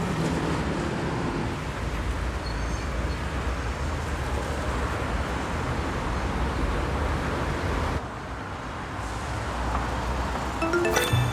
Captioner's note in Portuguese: Ruídos urbanos